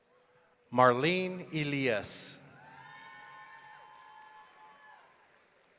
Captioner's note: audience cheering